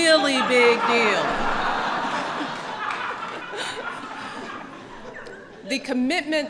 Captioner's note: laughter